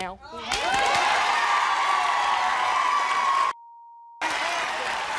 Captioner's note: crowd cheering